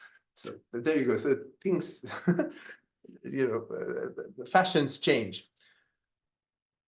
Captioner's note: laughs